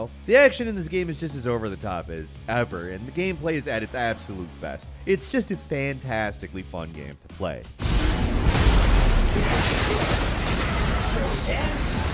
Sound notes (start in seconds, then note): 7.8 sword fighting